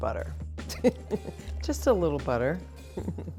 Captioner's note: giggling